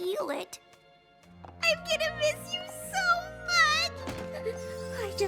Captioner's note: sobbing